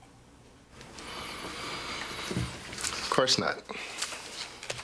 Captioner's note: deep breath